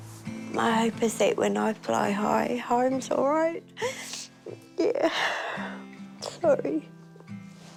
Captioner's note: sniffles